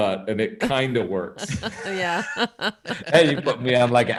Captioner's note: chuckling